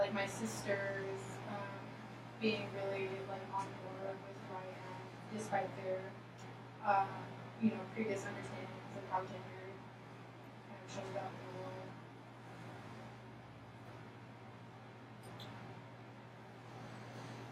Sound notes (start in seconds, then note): 10.4 speaking softly